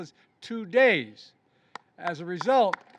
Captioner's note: applause